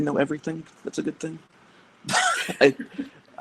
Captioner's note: laughs